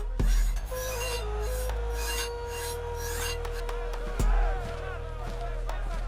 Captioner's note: crowd of soldiers